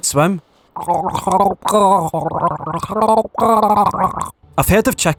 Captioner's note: gargling sounds